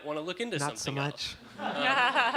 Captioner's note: audience laughing